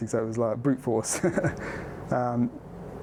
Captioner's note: laughs